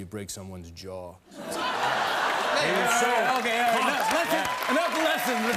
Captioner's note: laughter